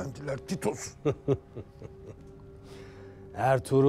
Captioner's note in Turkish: Gülme sesi